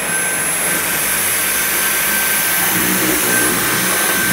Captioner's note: vacuum noises